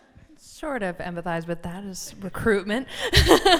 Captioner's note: laughter